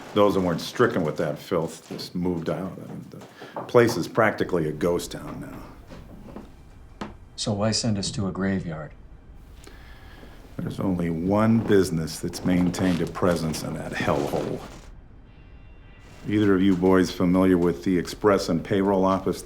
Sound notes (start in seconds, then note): none